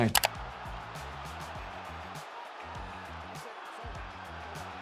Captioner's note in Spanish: la audiencia aplaude